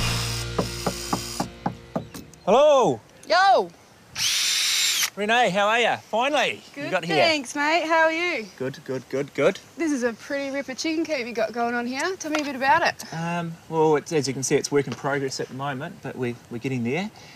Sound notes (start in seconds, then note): 0.5 knock at the door; 4.1 drill whirrs